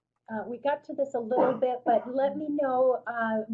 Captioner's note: voiceover